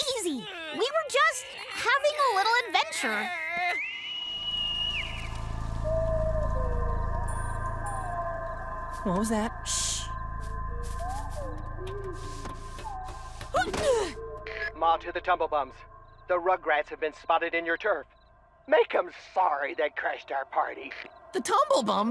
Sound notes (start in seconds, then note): 4.3 trees whistling; 6.0 owl hoots